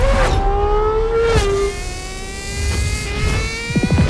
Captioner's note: engine roars